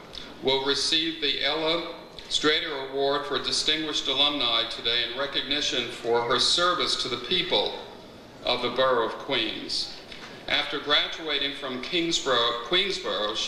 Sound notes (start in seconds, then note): none